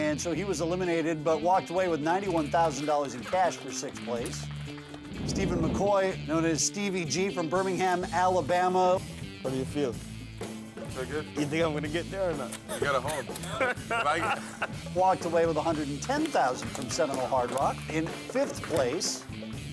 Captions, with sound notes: he was eliminated but walked away with $91,000 in cash for sixth place. Steven McCoy known as Stevie Gee from Birmingham Alabama. >> How do you feel? >> Pretty good. >> You think I'm going to get there or not? >> You gotta hold. [LAUGH] >> Walked away with $110,000 from Seminole Hard Rock in fifth place.